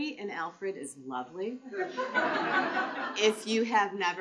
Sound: laughter

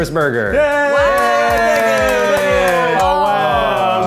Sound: clapping

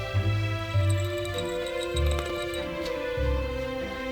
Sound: SFX: Rattle

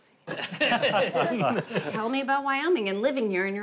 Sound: family laughs

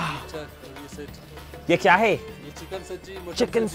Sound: speaking in foreign language

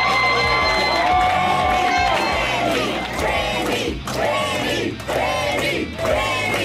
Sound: cheering; crowd

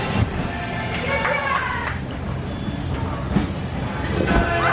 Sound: clapping

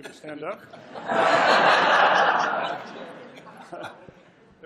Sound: laughter

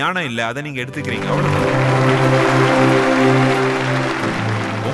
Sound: applause

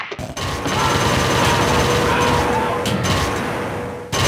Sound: sounds of Dr. Reflex smashing the Principal

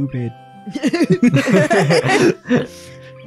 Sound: everyone laughs

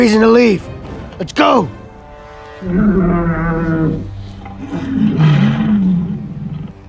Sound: Allosaurus growls

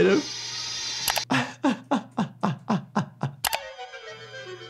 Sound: doctor laughing

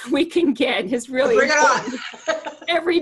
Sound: laughter

